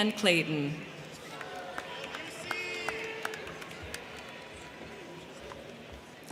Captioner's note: crowd clapping; crowd cheering